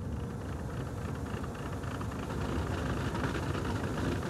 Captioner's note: van rattling